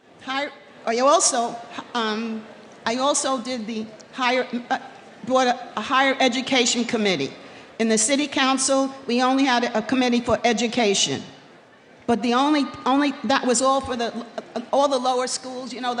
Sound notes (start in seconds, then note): none